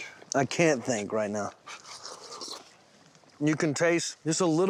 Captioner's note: slurping